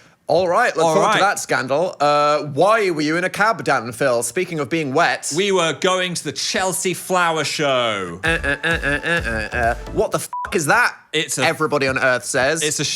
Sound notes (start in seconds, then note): 8.2 hums; 10.2 beep